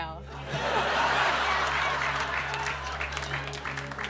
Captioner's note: laughter